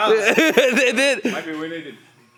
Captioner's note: laughs loudly